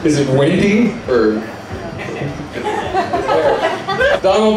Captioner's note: laughter